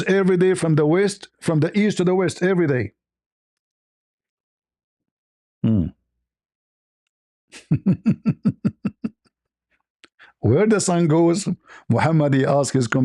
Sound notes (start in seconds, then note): 7.5 ketawa